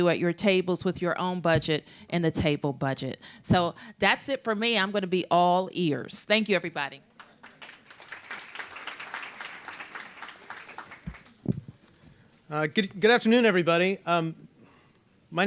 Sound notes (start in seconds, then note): 10.7 applause